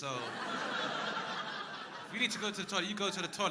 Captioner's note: crowd laughing